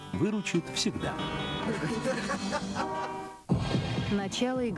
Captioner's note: laughter